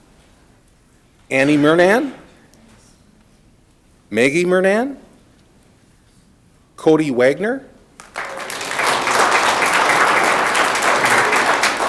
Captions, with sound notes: Annie Murnane. Maggie Murnane. Cody Wagner. (audience clapping)